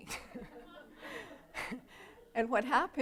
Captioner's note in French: Rires